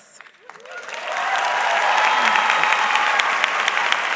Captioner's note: audience clapping